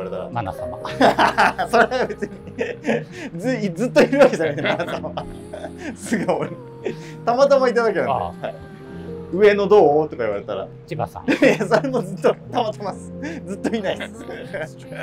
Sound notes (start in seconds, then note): 1.4 laughing